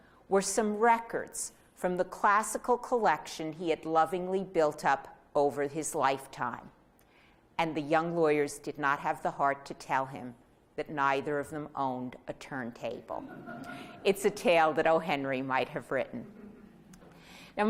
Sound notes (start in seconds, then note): 13.2 audience laughing